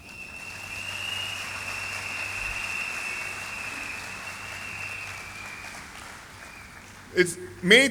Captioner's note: applause